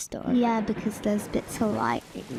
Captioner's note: lightning striking